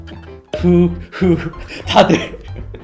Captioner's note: heavy breathing